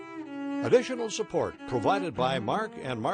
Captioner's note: voiceover